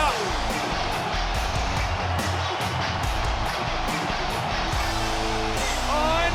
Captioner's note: crowd cheers; upbeat music